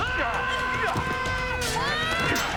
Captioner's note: yelling